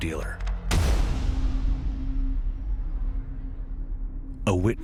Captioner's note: gun fires